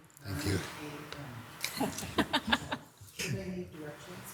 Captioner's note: people chuckle